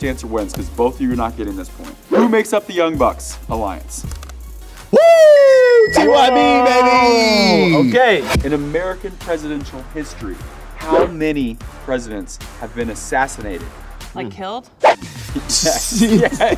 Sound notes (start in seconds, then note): 5.8 bell dinging